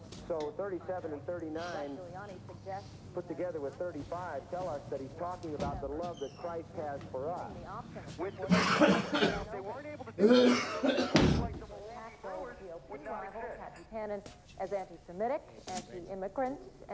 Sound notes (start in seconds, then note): 7.7 coughing, hacking